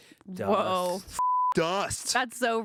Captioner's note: beep